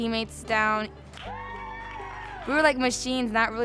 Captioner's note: people cheer